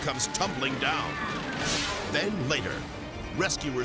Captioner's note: graphics whooshing